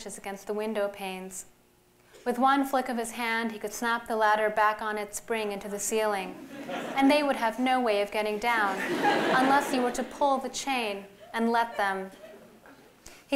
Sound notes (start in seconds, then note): 8.6 laughter